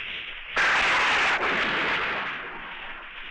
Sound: thunder Rumbling

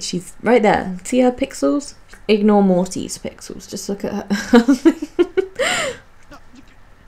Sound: laughs

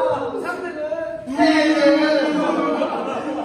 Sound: A lot of booing

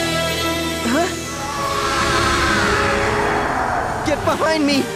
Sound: screaming

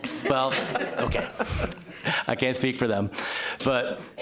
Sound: laughter

